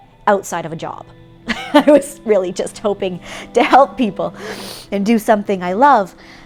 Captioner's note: laugh